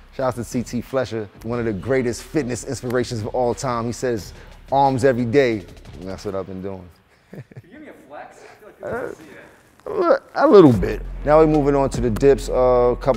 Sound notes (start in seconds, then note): 7.2 chuckles